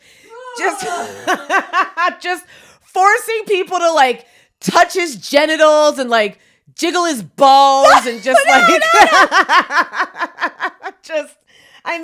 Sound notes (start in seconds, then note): 0.6 laughing; 0.6 retching; 8.4 laughs